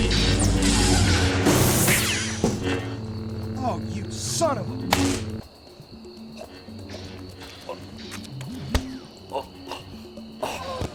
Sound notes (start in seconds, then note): 8.7 blow lands; 9.4 grunts